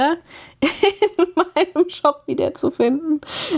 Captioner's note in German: gelächter